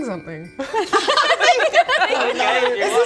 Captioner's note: mixed enthusiasm laughter